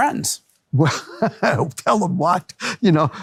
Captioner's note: laughs